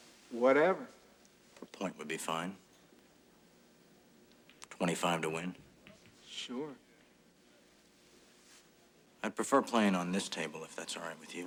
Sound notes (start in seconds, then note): none